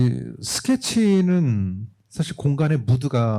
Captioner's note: speaking korean